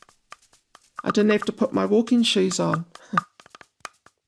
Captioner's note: chuckles; gentle music